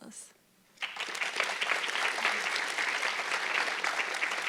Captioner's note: audience clapping